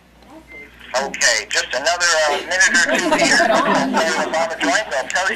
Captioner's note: laughing